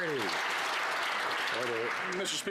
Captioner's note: some Applause